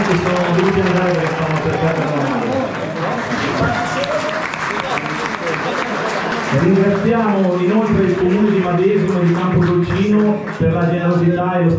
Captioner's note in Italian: Applauso